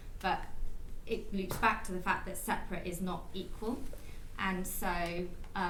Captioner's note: none